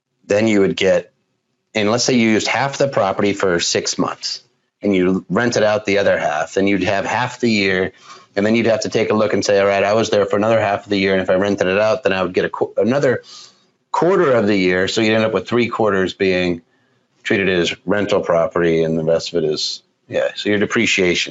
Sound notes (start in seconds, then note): none